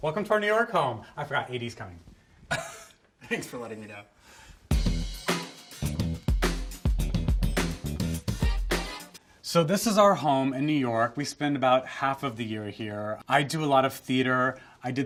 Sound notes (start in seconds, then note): 2.5 laughs; 4.7 upbeat music